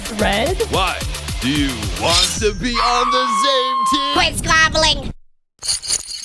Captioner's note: screams